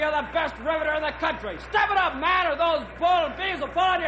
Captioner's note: none